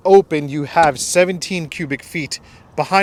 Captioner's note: door clicking